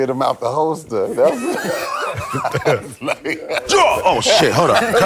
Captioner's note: laughter